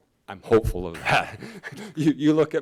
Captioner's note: laughs